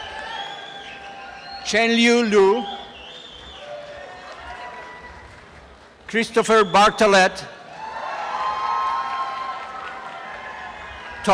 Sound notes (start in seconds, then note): 0.0 applause and cheering